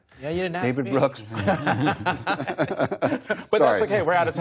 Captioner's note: laughter